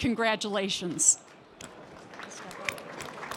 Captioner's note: applause